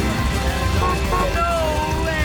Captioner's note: horn beeps